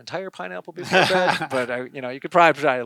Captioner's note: laughing